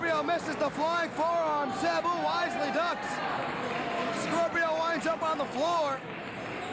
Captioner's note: cheers and applause